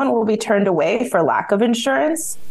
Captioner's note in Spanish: habla en ingés